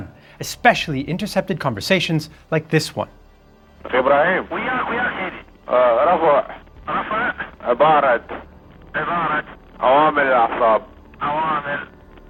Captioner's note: ORIGINAL AUDIO Iraqi Officers